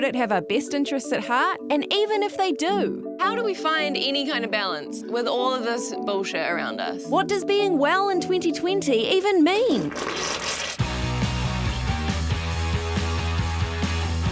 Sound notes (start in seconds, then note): 9.8 spitting drink; 10.8 upbeat rock music